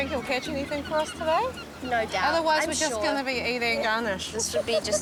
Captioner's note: seagulls call